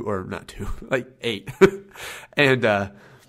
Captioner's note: laughs